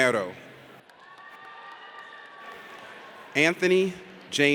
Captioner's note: audience cheers